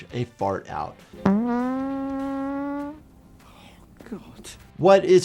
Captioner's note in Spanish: se tira un gas